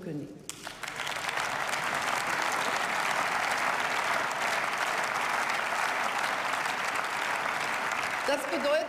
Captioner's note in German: Beifall